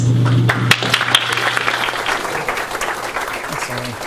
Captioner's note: audience applauds